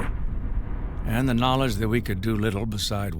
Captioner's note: loud explosion